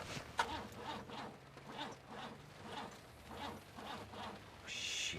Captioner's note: engine spluttering